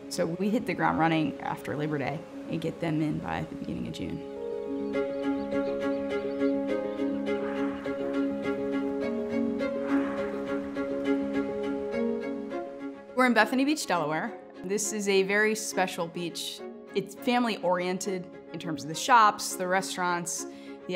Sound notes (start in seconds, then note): 5.0 soft music; 6.7 dolphins splashing